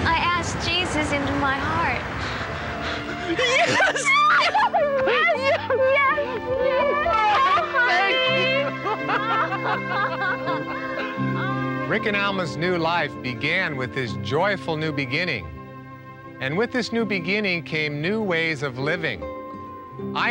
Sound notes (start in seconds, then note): 9.7 laughing